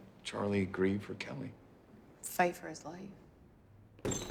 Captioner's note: door bangs open